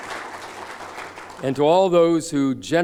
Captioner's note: applause